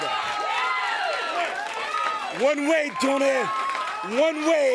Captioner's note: crowd chatter